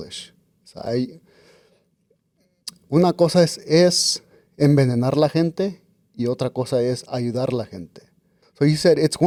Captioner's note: Spanish